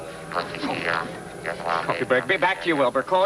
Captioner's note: robotic chattering